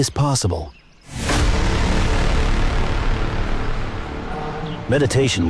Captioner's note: braam sound